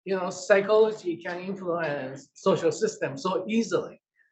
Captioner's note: none